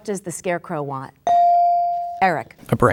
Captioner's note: bell dinging